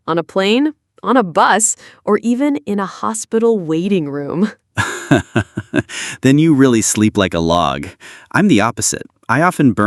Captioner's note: laughs